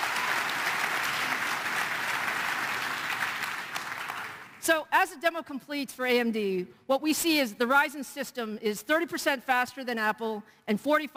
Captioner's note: applause